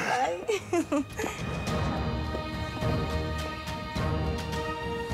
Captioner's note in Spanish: risas